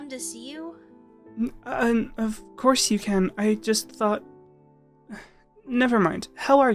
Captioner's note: sigh